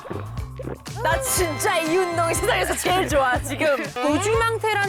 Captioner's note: peak hype level sound